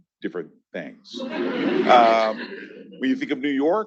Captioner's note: attendees laughing